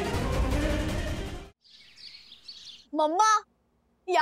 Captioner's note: birds chirping